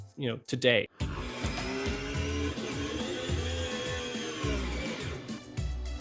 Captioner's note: car engine revs